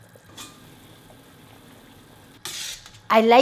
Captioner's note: utensil clanking